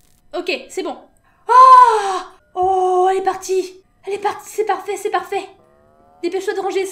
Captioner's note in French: cri de joie